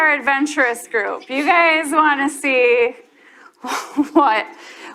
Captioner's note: chuckles